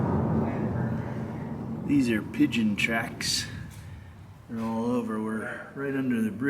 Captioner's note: car noises